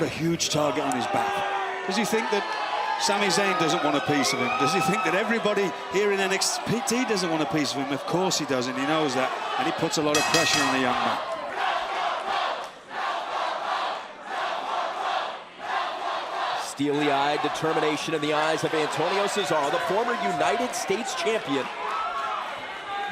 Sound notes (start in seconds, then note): 11.9 crowd cheering